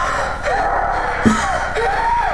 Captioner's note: tapping